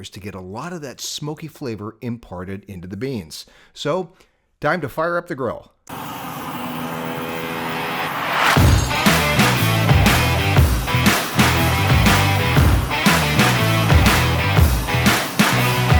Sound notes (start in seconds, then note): 5.9 blowtorch hissing; 8.3 upbeat rock music